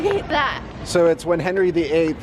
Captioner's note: laughs